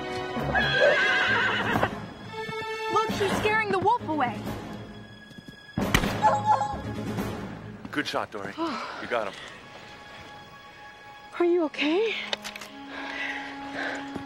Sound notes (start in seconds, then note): 0.5 horse neighing; 5.8 gun shot; 6.2 wolf whines